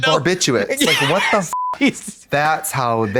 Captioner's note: beep